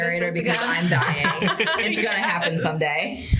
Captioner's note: laughter